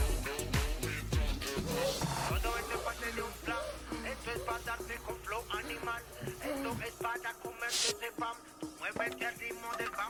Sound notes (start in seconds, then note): 4.2 heavy breathing